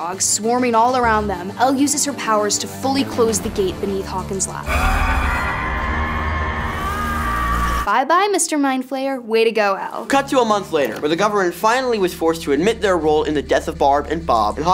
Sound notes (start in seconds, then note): 4.6 monstrous screeching; 4.6 Eleven screaming